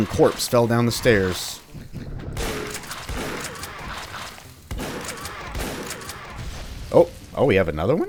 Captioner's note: shotgun blasting